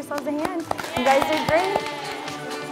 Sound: girls applaud; upbeat music

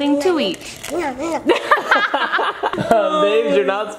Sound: everyone laughing

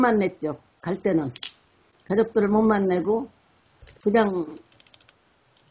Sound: speaks in foreign language

